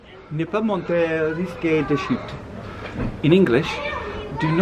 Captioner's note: speaks French